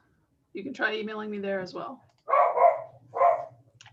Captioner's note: dog barking in background, her name is Keely!